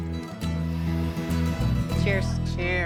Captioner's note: whirring